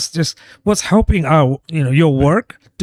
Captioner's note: uh